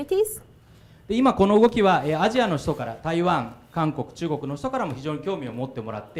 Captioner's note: speaking foreign language